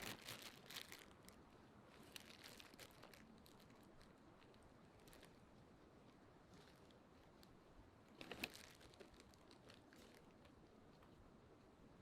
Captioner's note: crunching